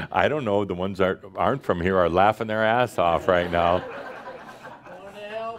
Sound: more laughter

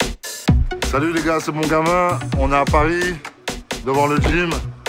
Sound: speaking French

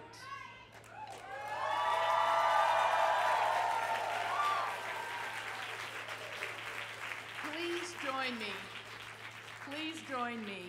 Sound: cheering

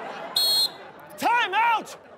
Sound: whistles

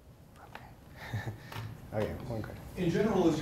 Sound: chuckles

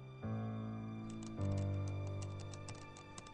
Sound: typing

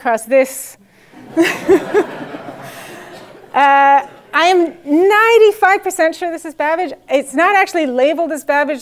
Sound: laugh

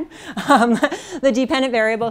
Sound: laughs

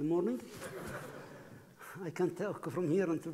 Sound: laughing

